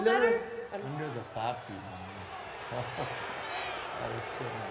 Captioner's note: chuckles